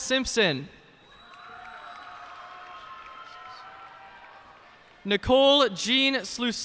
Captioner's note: cheers and applause